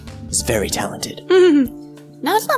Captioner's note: chuckles